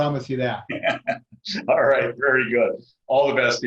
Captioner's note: laughs